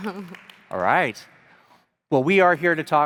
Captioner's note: crowd applauding